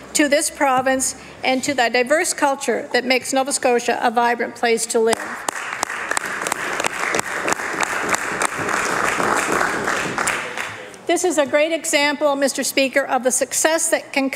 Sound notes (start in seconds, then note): 12.1 applause